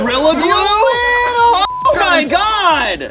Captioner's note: beep